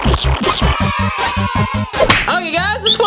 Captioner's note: children's cheers